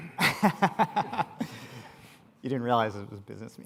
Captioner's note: laughs